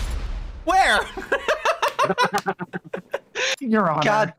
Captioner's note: laughing